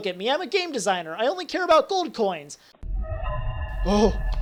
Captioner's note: scary sound effect